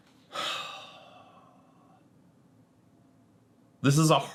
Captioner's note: sighs